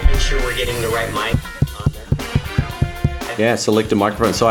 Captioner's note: microphone taps